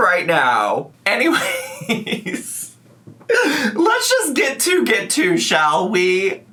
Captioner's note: laughs